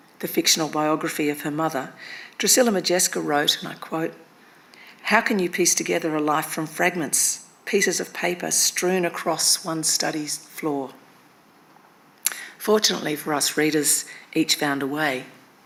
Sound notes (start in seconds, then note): none